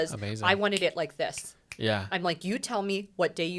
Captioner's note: snaps fingers